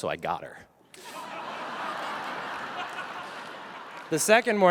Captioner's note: audience laughs